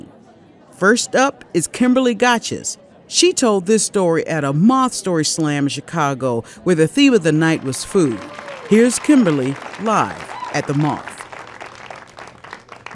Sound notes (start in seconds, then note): 7.2 audience applauding